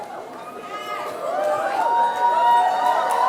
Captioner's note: cheering